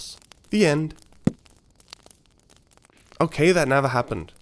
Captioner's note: book closes